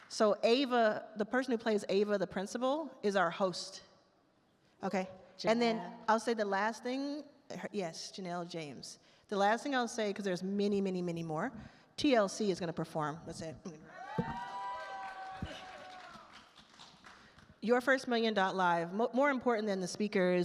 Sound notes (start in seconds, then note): 13.9 attendees cheer loudly